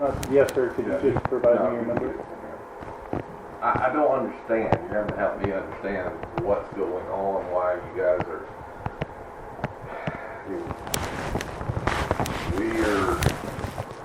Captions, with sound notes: Ah, yes sir can you just provide me your number I... I don't understand you have to help me understand what's going on why you guys are [sigh] We're